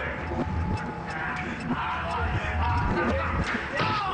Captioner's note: males laugh